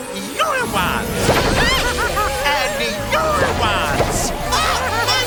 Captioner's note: laughing